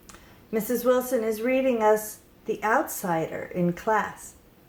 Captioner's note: none